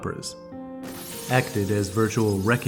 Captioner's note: glass shattering